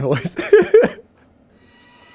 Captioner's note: laughing